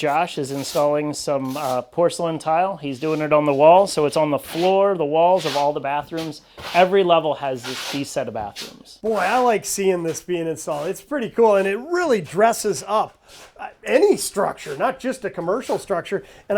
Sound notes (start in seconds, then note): 3.8 trowel scraping